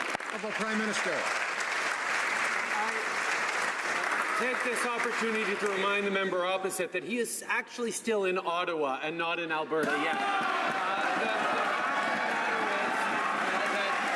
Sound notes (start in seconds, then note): 3.9 some Applause